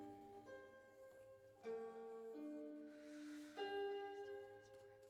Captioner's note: whispered